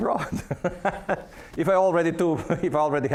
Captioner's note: laughing